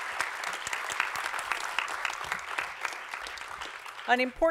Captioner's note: applause